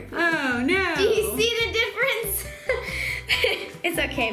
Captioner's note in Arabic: يضحك